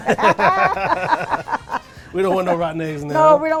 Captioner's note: laughs